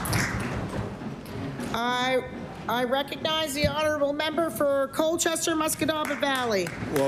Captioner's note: applause